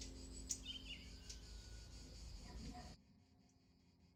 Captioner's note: birds singing